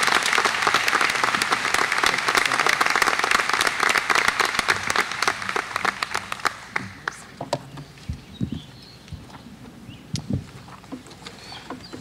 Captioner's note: applause